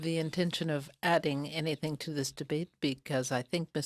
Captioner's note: speaking French